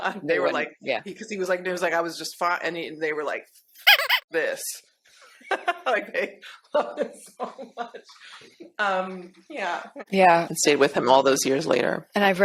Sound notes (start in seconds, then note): 3.8 laughs; 3.8 rubber duck squeaks; 8.7 laughs